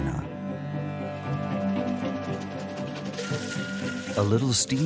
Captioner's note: soft music; train engine revving